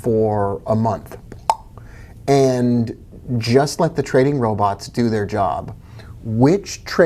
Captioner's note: popping